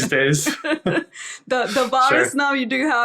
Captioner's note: both laughing